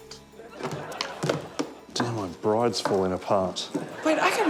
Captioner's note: clattering